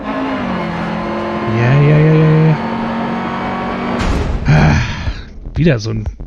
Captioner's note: sighs